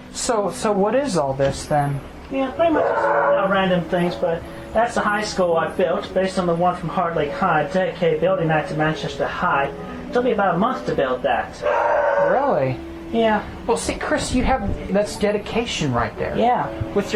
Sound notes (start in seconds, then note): 11.6 loud Barking